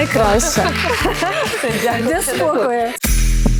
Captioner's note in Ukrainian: сміх